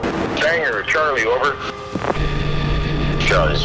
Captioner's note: voiceover; voiceover